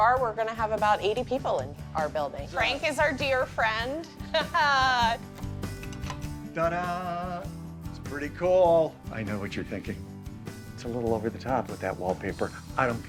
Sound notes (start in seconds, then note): 4.2 laughing